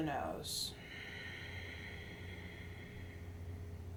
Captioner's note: exhales